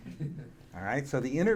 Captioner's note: audience laughing